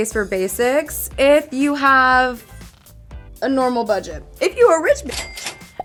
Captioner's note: cash register dinging